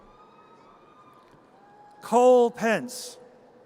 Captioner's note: audience cheers